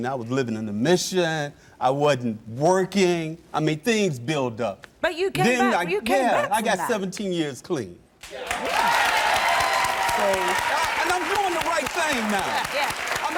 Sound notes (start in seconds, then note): 8.2 applause